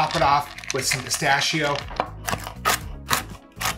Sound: pistachios rattling; pistachios crunching

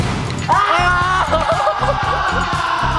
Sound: cry

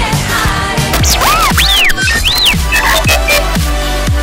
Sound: R2D2 excited beeps

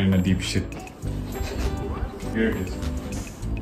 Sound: laughing

